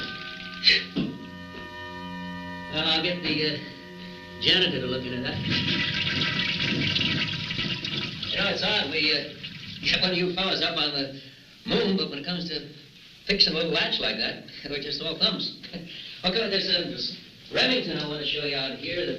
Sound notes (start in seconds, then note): 0.0 dramatic music; 5.3 toilet flushing